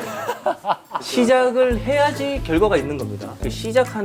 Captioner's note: laughs out loud